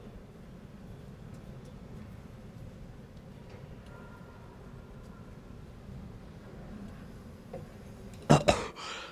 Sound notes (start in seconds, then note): 8.3 gagging